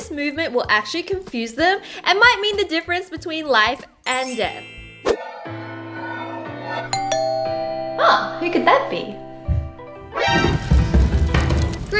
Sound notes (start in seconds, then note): 6.9 door-bell intercom ringing